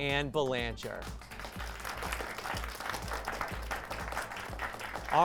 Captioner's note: applause